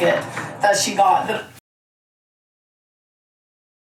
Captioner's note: door knocks